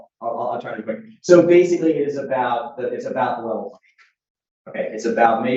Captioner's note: speaks faintly